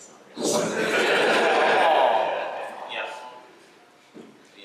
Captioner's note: laughter and awww's